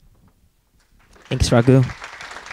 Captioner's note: applause